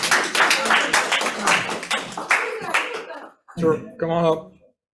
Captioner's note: audience applauds